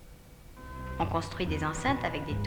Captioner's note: speaking french